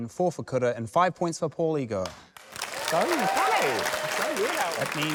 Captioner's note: cheering